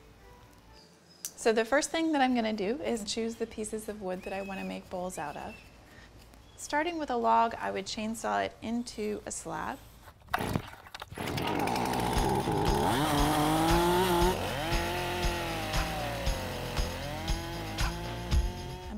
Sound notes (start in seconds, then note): 11.2 chainsaw buzzing; 17.0 upbeat music